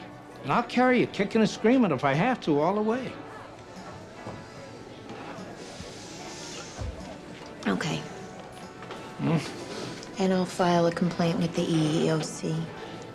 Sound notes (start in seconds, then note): 6.2 sighs; 8.9 scoffs